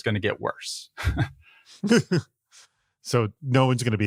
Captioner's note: both chuckle